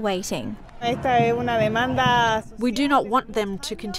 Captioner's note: speaking in Foreign Language